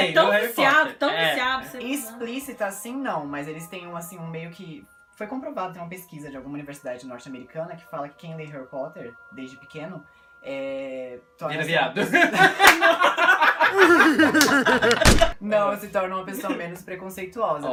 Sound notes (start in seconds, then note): 15.0 sound of gunshot